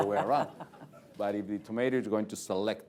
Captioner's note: laughter